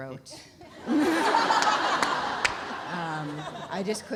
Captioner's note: laughs; audience laughs